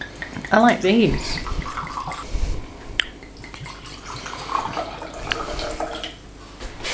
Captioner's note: wine pouring/glugging